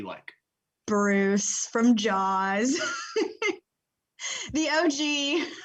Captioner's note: laughing